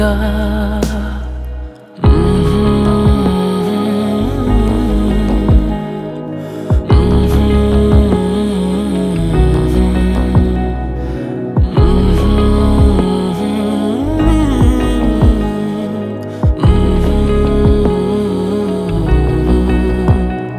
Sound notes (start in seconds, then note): 1.6 Humming